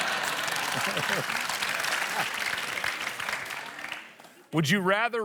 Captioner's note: laughter, applause